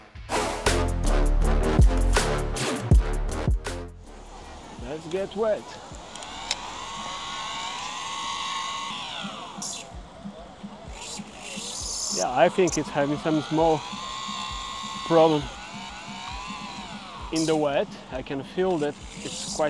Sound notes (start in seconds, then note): 6.2 Zipforce Noises; 12.1 Zipforce Motor Sounds